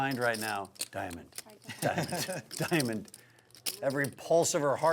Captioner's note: laughing